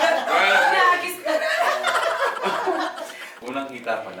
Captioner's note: laughs